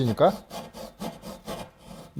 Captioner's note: sawing sound